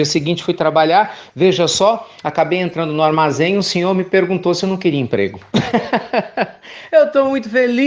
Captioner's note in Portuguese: Risos